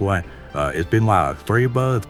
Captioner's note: beatin' sounds